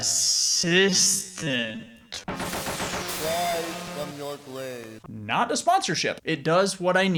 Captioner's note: lightning strikes